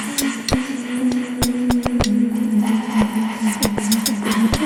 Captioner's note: rapid breathing